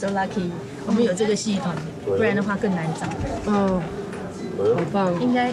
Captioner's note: speaking in foreign language